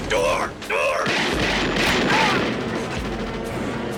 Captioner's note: gunshots